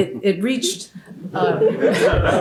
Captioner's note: laughter